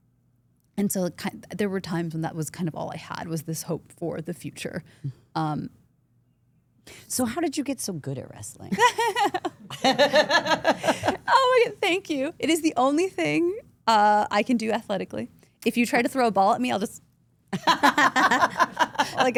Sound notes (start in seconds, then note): 8.7 AJ laughs; 8.7 Steph laughs; 17.5 Steph and Elyse laugh